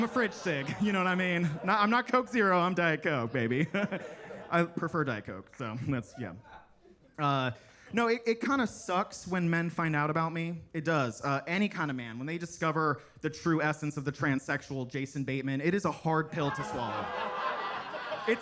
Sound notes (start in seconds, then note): 4.1 laughs; 16.2 attendees laughing